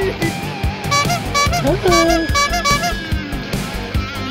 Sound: honking

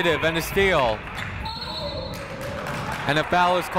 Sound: whistle blowing

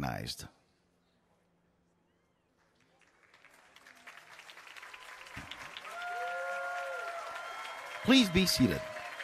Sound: applause and Cheering

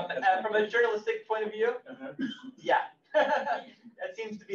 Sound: laughs

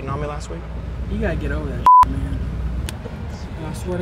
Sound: beep

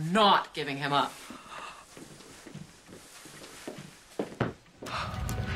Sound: Griffen gasps

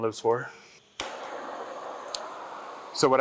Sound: flame sizzling

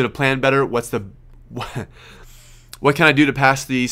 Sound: laughs

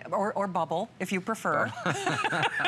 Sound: laughter

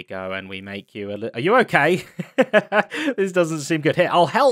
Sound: laughs

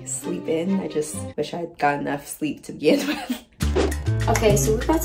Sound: chuckles

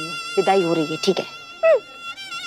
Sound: cries

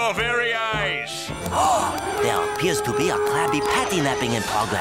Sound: gasping

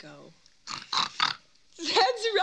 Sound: oinking

